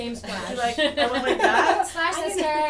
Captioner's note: laughter